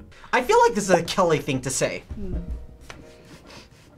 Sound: none

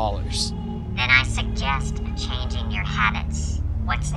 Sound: phone distorted voice

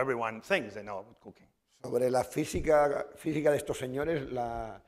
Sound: speaking spanish

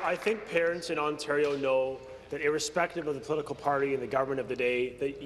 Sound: applause

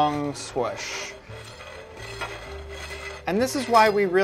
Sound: scrapping

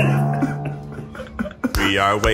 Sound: laughing

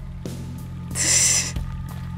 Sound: snickers

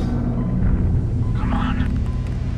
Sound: Yeti Footstep; computer Startup

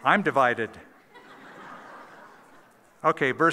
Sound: laughter

